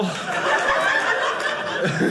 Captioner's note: audience laughing